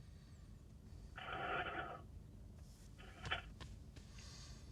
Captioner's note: paper rustles